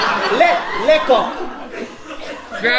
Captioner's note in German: französisch